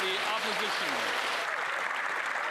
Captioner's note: applause